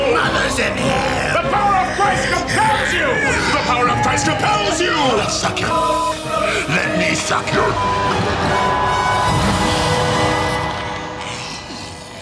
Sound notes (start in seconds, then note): 6.6 beeping